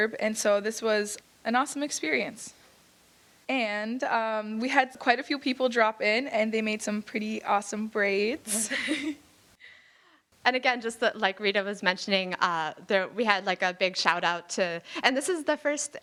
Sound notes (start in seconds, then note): 8.4 chuckling